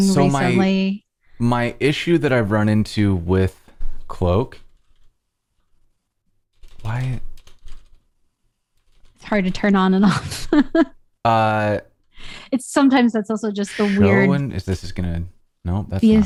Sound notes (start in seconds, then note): 10.0 laughter